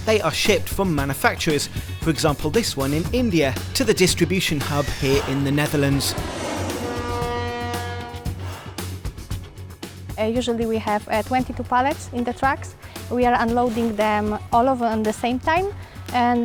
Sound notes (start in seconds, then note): 6.5 aeroplane roars; 6.5 horn blares